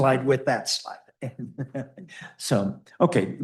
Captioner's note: chuckles